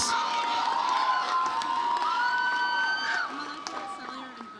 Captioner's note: audience cheers